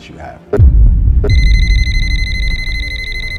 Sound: cell phone ringing

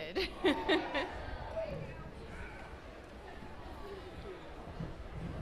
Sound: cheering

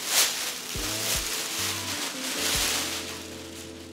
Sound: packet ruffling

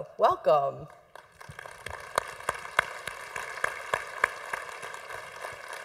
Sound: congregation applauding

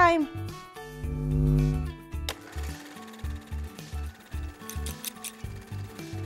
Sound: camera whirring; scissors snipping

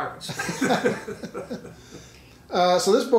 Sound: laughing

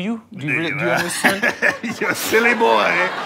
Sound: Sir Malcolm chuckling

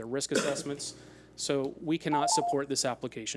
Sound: timer beeps

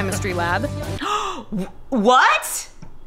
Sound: gasps

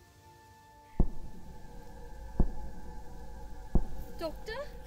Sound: distant knocking sound

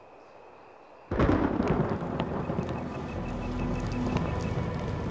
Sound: thunder crashes

